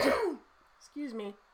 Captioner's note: coughs loudly